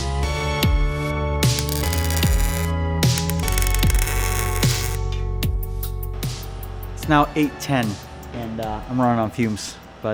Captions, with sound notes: (sparks crackling) It's now 8:10, and I'm running on fumes,